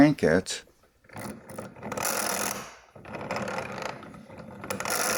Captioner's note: grinding sound